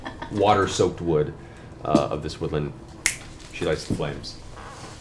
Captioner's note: snaps